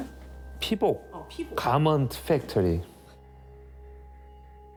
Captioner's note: reporter speaking Korean; speaking Korean